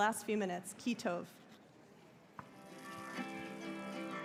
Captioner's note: hebrew